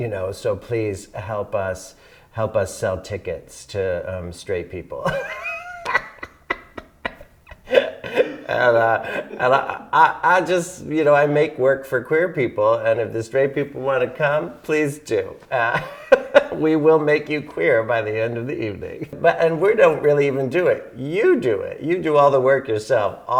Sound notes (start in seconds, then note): 5.0 laughing; 15.4 laughs